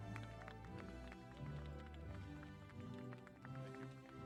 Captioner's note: applause